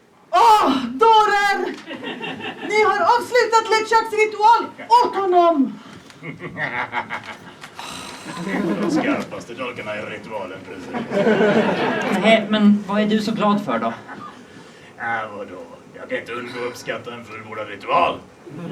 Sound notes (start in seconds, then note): 1.7 laughter; 7.8 she sighs; 8.2 audience laughs; 10.6 audience laughs; 18.5 Audience and Murray laugh